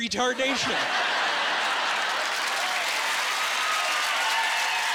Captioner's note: laughing